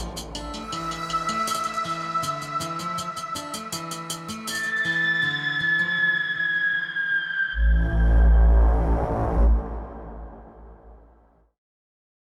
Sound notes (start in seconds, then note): 0.0 light music; 8.1 errie sound